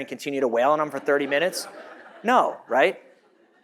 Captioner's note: audience laughs